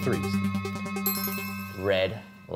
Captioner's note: bell dinging